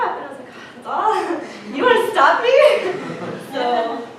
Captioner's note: gasps